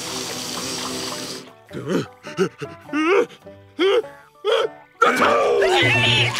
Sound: sniffing; sneezing

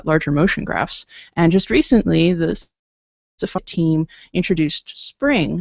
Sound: audio blurps

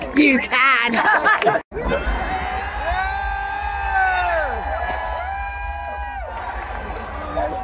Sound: cheering

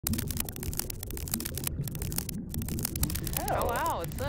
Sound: spider legs clacking

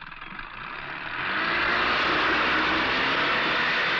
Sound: boat Engine Starting

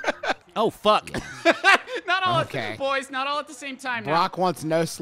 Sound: laughing

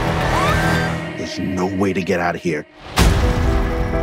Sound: screams

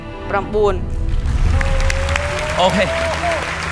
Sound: applause; applause continues

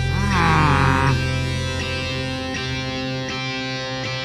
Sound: Blok grunts

